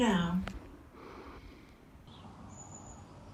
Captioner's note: therapist voice; breath; bird song